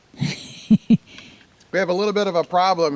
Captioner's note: camera operator giggles